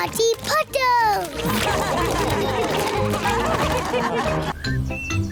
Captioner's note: all laugh